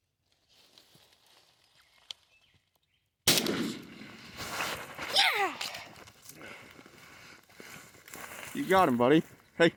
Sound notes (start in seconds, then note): 3.2 gunshot fires